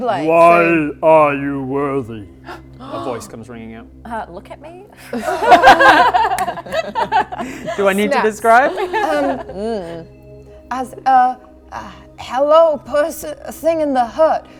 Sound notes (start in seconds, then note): 2.4 gasp; 5.0 laughing